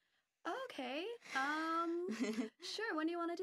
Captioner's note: laughing